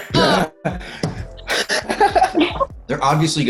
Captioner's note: all laughing